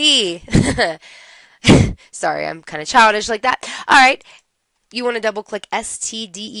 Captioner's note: laughter